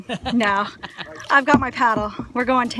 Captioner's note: laughing